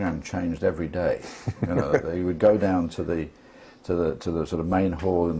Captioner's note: laugh